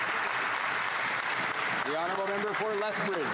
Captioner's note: some Applause